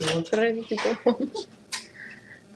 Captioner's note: laughter